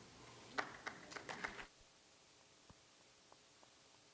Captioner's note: applause